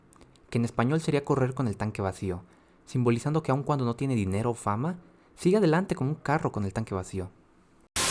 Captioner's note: spanish explanation